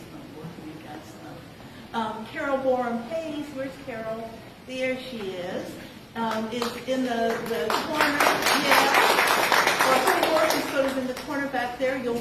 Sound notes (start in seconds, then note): 7.2 applause